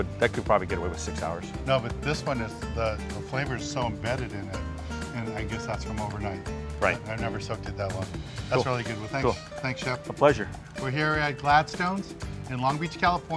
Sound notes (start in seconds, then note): none